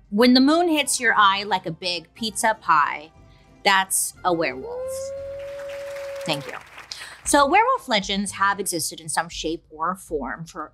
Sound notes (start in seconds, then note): 4.7 wolf howls; 5.0 audience applauding